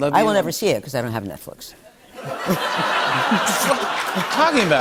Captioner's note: laughter